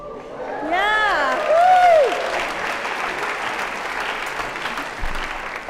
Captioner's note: applause